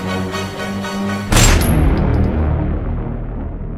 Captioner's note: gunshot